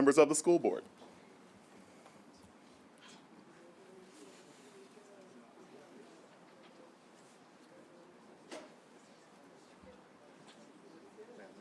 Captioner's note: group of people talking